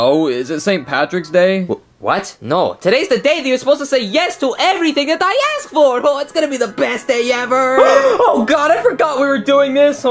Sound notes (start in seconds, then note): 7.8 gasps